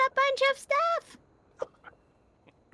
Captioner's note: laughing